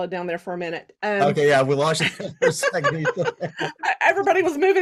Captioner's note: laughs; laughing